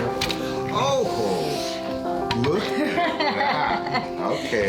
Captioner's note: laughs